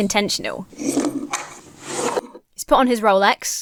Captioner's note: items scraping off shelf